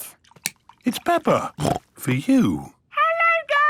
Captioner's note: snorts